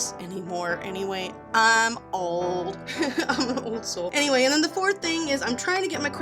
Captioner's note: laughs at self